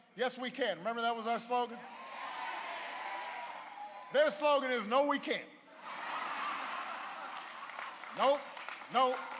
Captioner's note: applause